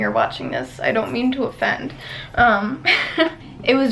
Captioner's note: laughs nervously